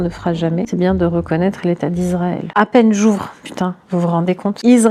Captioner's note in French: bip